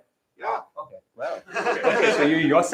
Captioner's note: laughter